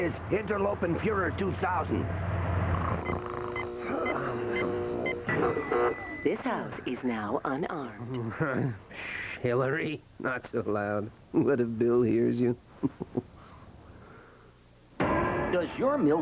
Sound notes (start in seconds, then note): 2.5 snoring; 12.7 chuckling